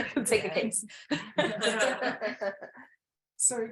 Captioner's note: people laugh